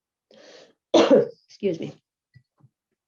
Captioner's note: coughing